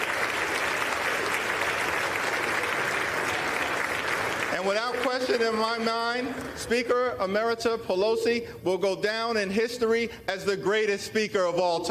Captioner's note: applause